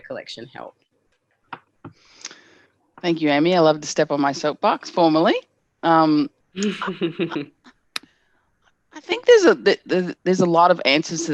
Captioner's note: laughter